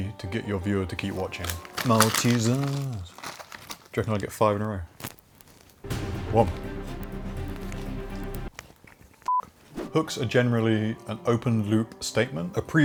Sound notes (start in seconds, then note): 5.8 upbeat dramatic music; 9.3 beep